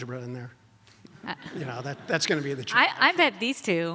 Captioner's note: audience laughs